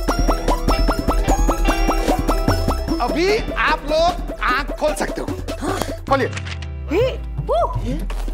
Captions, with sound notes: Now you can open your eyes. - [gasps] - Open it. - Hey ! - Whoa !